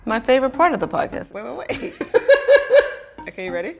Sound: laughs

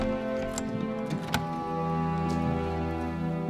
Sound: lock clicking

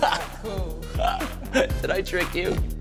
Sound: both laugh

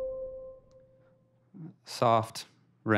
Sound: ringtone

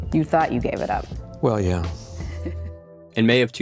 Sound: laugh

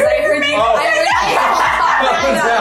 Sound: laughs

